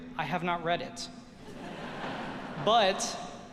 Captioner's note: audience laughing